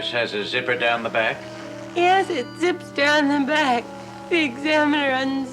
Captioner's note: zipper rasping